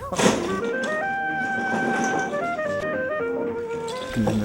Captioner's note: oyster clanking as they are shoveled into bags; shovel slamming against scow